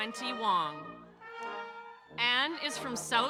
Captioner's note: audience cheering